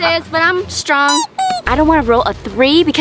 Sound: laughs mockingly; rubber ducky squeaks

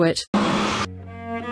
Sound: cutoff Krill attack noise

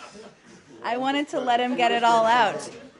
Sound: laughter

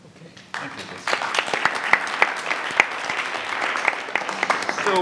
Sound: audience applauds

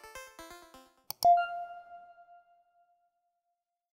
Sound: logo pings

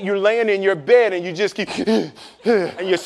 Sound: hyperventilating

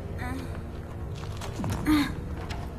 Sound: struggles

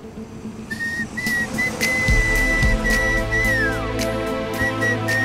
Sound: whistles

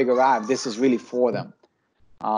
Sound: background chattering

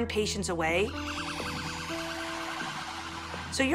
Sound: sirens beeping

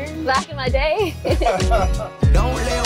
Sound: laughs

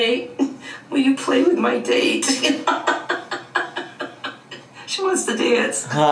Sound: laughs

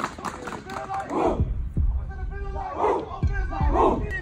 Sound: chanting

